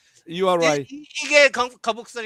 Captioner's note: non-english speech